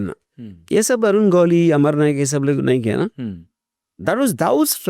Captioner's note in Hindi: गला साफ़ करने की आवाज़